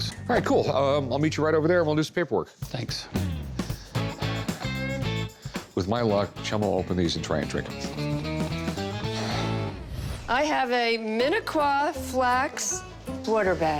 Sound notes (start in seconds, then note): 3.4 exhales; 8.9 sighs